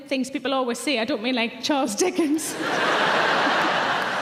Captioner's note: audience laughing; chuckles